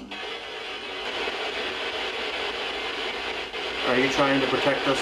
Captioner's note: static crackling